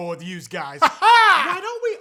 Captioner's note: weird laughing